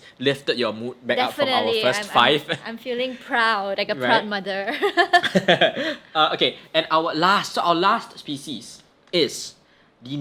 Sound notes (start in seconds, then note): 4.7 both laugh